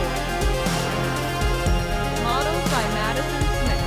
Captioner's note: audience laughing